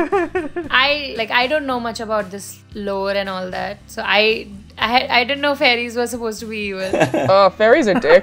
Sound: laughter; laughter

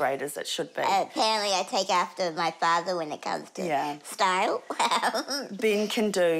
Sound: laughs

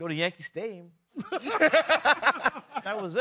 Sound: laughing

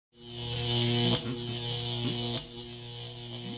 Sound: electricity crackling, humming

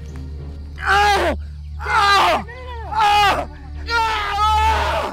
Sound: groaning in pain

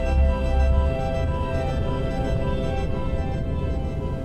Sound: rapid droning

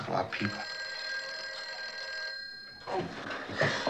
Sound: phone ringing

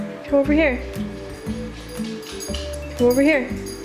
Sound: dog pitter-patters around

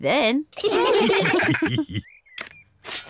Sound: all laugh

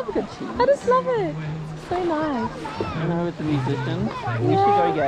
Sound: none

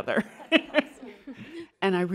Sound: laughter

